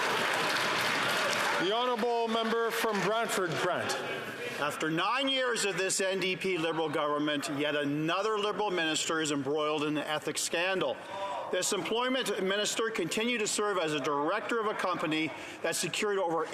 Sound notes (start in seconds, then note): 2.8 some Applause